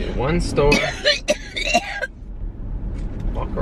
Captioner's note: coughing